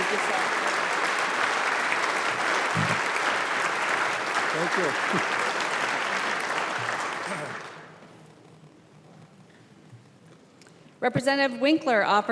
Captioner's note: applause